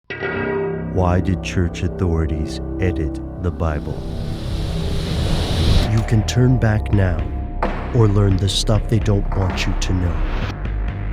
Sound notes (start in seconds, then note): 1.2 voiceover; 10.9 dramatic music